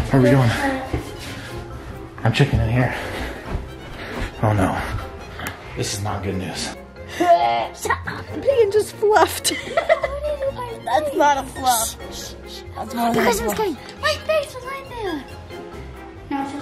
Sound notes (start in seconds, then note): 7.2 gagging